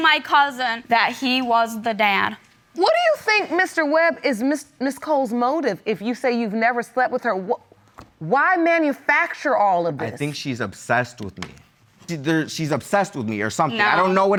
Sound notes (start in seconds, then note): none